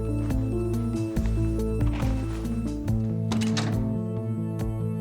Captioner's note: bullets rattling